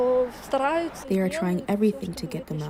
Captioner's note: through translator